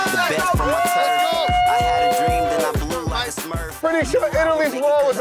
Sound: upbeat music; people chattering

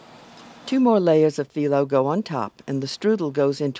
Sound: voiceover

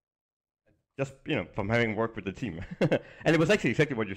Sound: chuckles

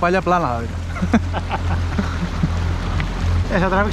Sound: laughs

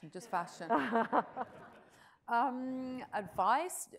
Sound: audience chuckles

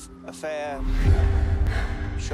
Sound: breathing heavily

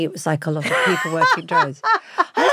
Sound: Giovanna laughs

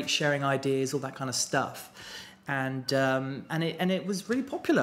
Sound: none

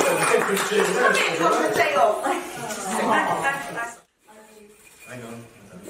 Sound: laughter

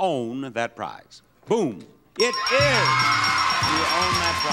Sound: audience cheering

